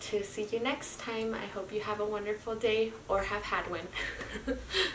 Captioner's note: laughs